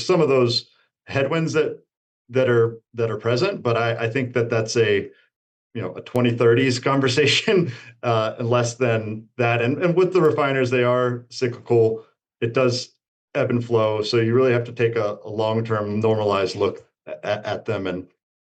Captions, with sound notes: some of those headwinds that, that are, that are present, but I, I think that that's a, you know, a twenty-thirtys conversation, [chuckles] uh, less than that. And, and with the refiners, they are cyclical. It does ebb and flow, so you really have to take a, a long-term normalized look at, at, at them and-